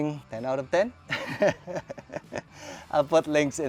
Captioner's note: laughs